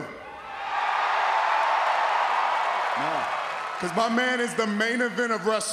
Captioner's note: applause